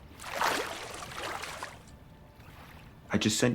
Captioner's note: water splashing